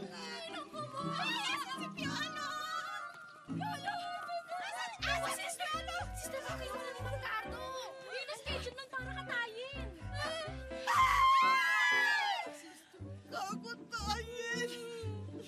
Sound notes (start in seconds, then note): 10.8 screams